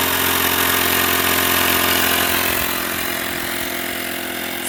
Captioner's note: motor roars